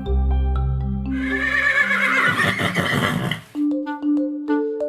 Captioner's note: horse whinnying